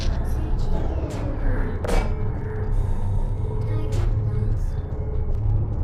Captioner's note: Turret voices continue